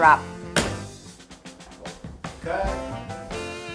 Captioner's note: hands thud